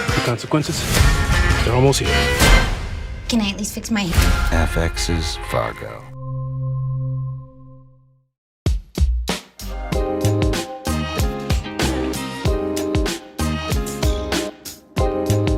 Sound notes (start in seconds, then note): 4.7 voiceover